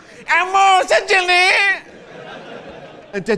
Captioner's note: imitates child